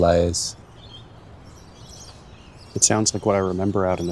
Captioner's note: birds chirping; traffic lightly whirring